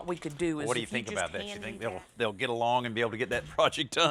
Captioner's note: chuckling